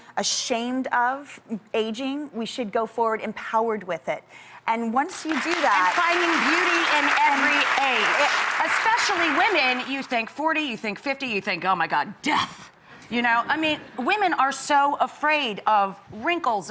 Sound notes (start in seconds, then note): 7.8 audience applause